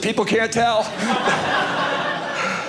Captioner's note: audience laughing